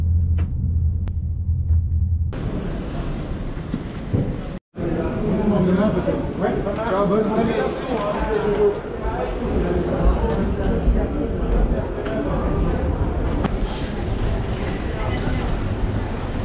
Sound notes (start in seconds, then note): 0.1 train moving; 5.1 crowd chattering